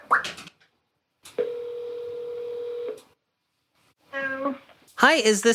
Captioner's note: telephone rings